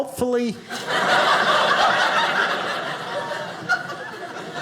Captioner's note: audience laughing